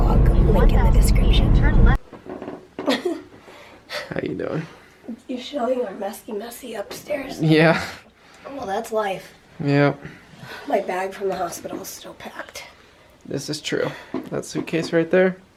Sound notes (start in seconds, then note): 2.8 laughs